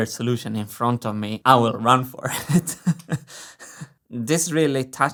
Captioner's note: laughs